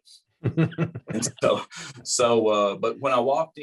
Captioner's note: laughter